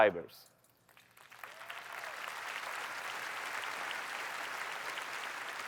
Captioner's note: applause